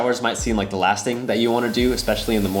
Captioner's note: water streams